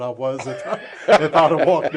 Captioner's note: laughter